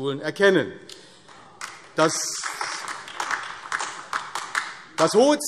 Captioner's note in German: Beifall AfD